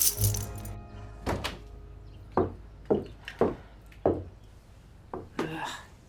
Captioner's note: keys jingle; door opens, footsteps